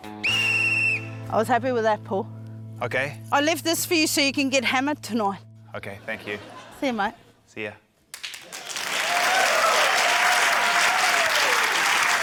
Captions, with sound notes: (BLOWS WHISTLE) - I was happy with that, Paul. - OK. - I left this for you so you can get hammered tonight. - OK, thank you. - See you, mate. - See ya. (CHEERING, APPLAUSE)